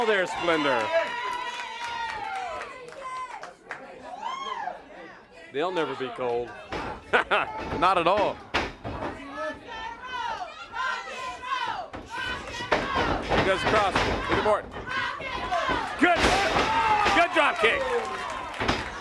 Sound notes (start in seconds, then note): 7.0 laughs; 9.0 crowd chants: rock and roll